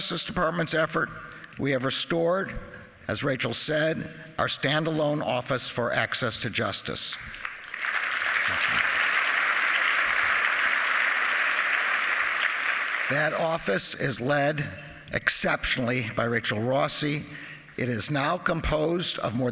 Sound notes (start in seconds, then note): 12.1 applause